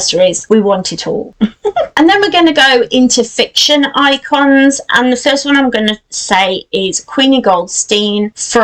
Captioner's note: giggles